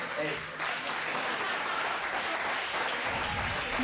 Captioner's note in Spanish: aplausos